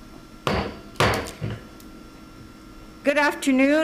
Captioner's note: gavel bangs twice